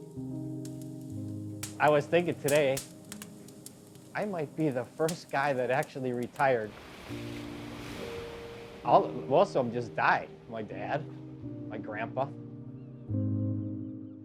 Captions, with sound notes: (tender instrumental music) (fire crackling) I was thinking today, "I might be the first guy that actually retired." Most of 'em just died. My dad, my grandpa.